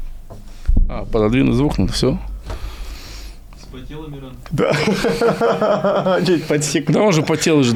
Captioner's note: laughs